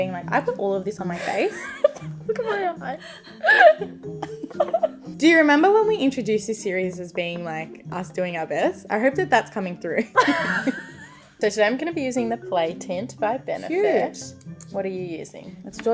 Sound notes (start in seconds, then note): 2.9 both laughing; 10.1 both laughing